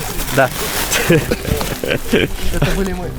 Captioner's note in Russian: смех